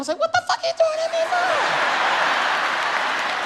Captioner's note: audience laughs; audience claps